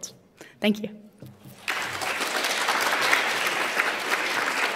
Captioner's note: applause